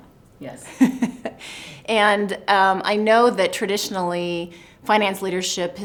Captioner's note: laughs